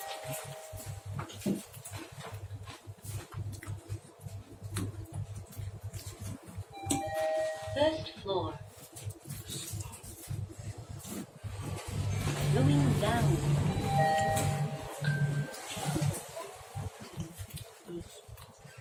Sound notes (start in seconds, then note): 6.8 chime